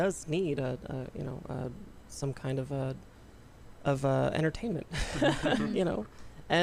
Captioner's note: laughter